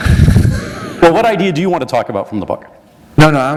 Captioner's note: laughter